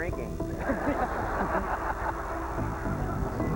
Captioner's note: laughter